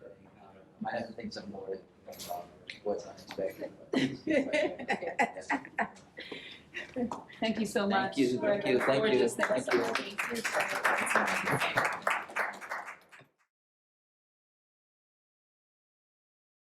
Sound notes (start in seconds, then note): 3.9 laughter; 8.6 applause